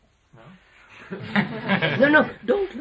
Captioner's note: laughter